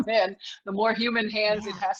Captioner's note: laughs